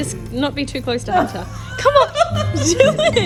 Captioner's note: laughs